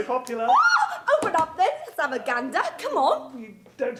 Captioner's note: squealing